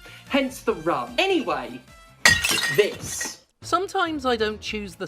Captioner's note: smash